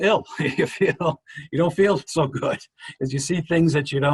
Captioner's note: chuckles